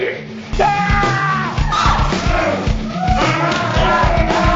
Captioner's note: yelling